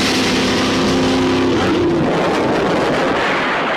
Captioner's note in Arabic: انفجار قوي